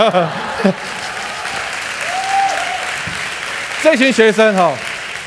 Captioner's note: laughter; applause